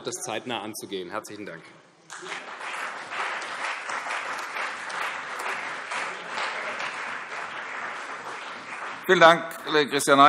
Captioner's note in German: Beifall CDU, BÜNDNIS 90/DIE GRÜNEN und AfD